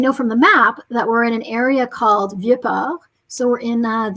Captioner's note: speaking french